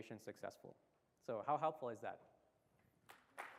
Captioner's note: applause